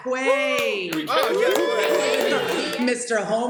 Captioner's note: cheers and applause